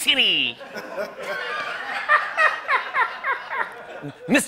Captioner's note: laughter